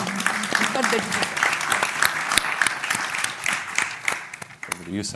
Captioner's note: applause